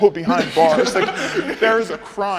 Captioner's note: people laughing